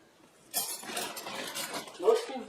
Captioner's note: clinking flatware